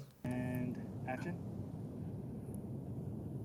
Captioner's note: voiceover